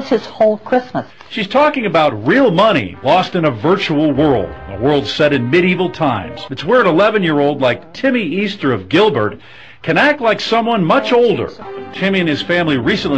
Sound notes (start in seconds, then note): 0.0 news report plays